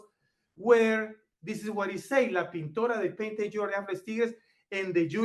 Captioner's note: speaks foreign language